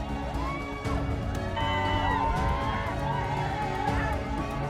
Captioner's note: crowd cheering